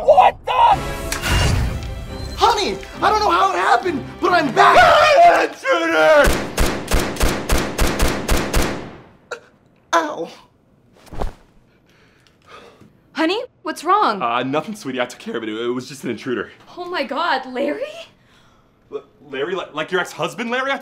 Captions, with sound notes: What the! (fingers clicking) (chipper classical music) Honey, I don't know how it happened, but I'm back! (screaming) Aah, intruder! (gun firing) Ow. Honey, what's wrong? Ah, nothing sweetie, I took care of it. It was just an intruder. Oh my God, Larry? Larry, like your ex-husband, Larry?